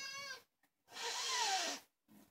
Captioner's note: hissss